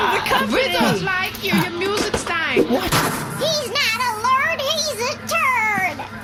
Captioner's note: shouting